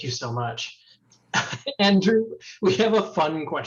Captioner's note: chuckles